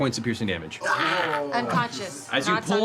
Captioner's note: scream